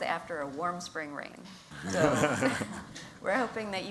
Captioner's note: laughter